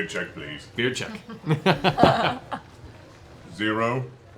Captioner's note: laughs